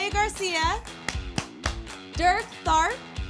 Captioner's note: clapping